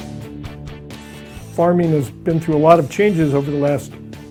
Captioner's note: male Voice